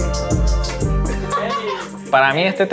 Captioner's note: laughs